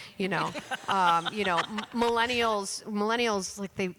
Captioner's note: laughter